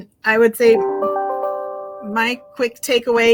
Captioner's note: device chiming